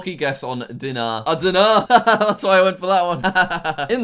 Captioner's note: laughs